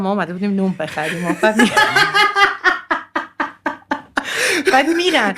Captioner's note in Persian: خنده